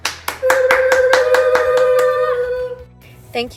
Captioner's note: speaking in foreign language; clapping and cheering